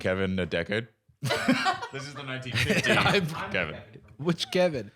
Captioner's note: laughing